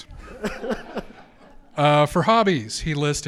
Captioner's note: audience laughs